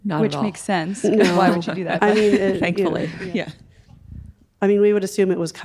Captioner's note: chuckling